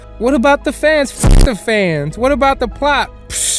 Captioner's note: glitch